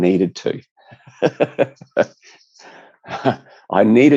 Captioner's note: laughs